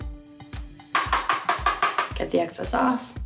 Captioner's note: tapping